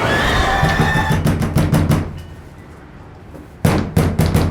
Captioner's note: knocking on door